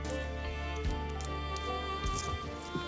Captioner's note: coins clinking